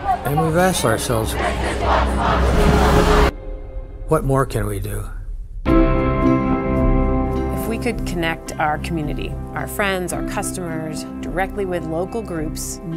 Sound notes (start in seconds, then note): 0.0 crowd chanting; 1.6 people chanting; 1.6 suspenseful music; 5.8 gentle upbeat music